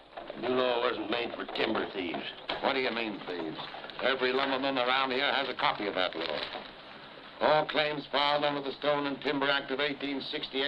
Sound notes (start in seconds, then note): none